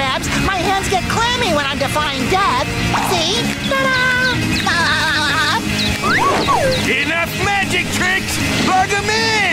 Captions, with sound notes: my hands get clammy when I'm defying death. See? Ta da! [laughing] Enough magic tricks, plug 'em in!